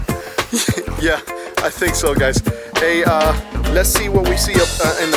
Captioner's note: laughing